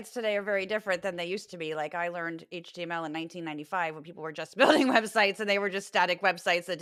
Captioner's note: laugh